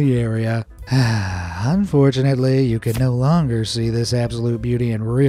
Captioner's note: sad sigh